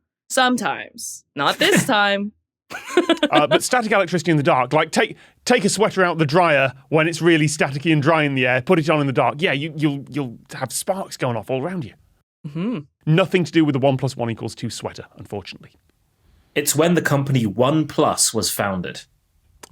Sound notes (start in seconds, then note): 2.7 laughs; 2.7 snickers